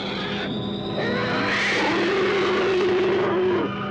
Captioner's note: roaring